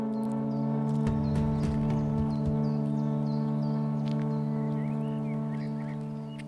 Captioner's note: birds chirping